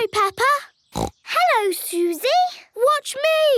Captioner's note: snorts